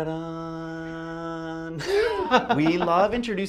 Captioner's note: laughs